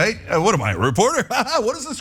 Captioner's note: laugh